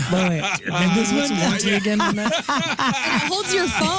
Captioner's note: laughing